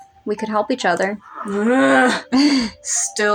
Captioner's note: groan; chuckle